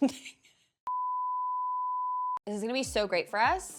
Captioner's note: beep